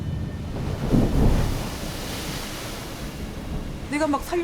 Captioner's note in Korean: 파도 소리